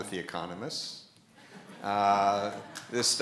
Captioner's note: audience chuckling